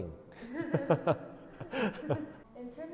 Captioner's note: laugh